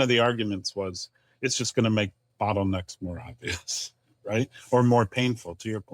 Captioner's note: chuckles